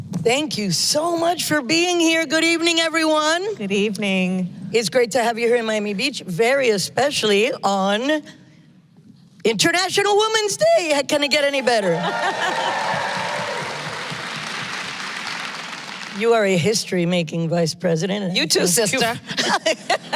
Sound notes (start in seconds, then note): 11.9 applause